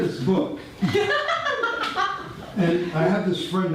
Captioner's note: audience laughter